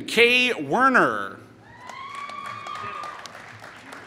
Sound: applause

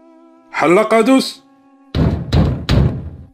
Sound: someone knocking door

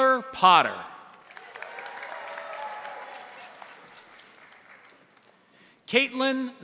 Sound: crowd applauding; crowd cheering

